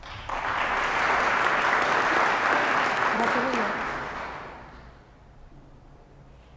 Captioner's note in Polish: oklaski